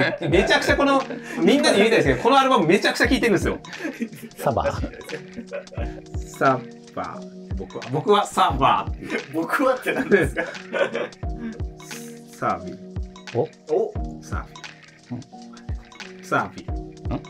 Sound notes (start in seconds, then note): 9.8 laughing